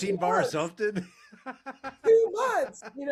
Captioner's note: laughing